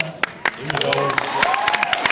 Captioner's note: applauds, cheers